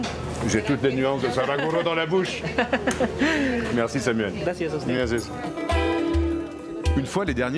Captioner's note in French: rires